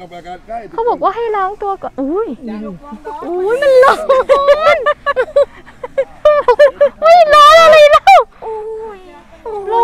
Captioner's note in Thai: เสียงหัวเราะ